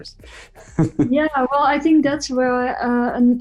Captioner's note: chuckles